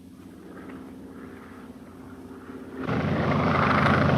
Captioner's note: airplane buzzing